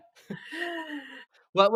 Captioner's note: laughs